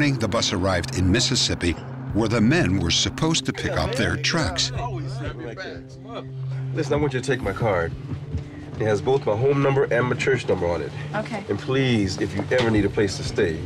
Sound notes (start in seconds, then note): 3.3 chatter